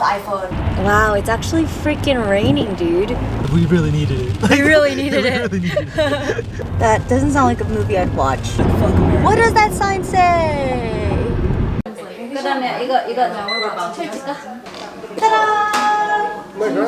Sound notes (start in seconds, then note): 3.8 laughing; 12.1 speaking in foreign language